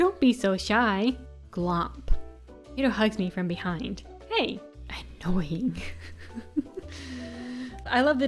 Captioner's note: laughs